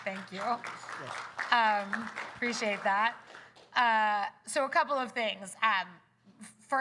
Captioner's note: applause